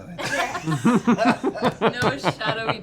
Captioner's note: laughter